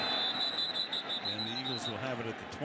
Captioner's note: whistle